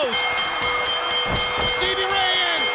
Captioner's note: bell dings